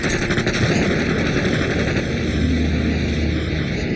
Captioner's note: car explodes